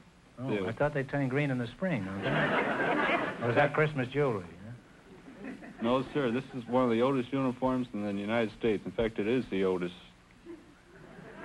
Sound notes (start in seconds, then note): 2.1 audience laughter